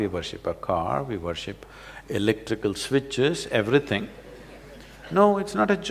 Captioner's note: laughter; 笑聲